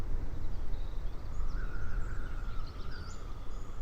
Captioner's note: birds chirping and wind blowing